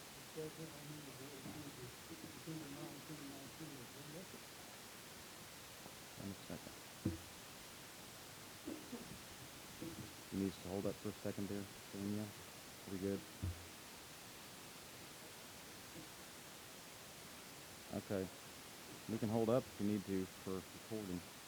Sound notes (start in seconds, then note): 0.3 murmuring